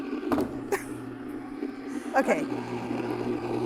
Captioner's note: can opener whirring; laughs; can opener whirring